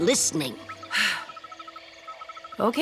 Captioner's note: sighing